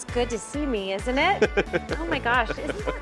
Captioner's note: laughing